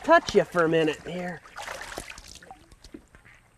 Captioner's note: splash